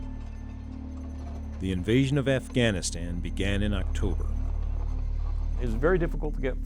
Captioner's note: gloomy music; voiceover